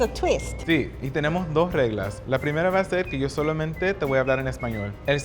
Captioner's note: speaking Spanish